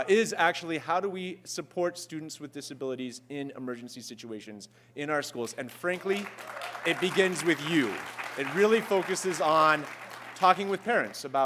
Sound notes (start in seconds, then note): 5.5 applause